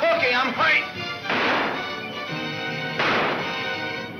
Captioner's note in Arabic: اطلاق النار بالبنادق